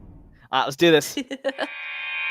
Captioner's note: laughter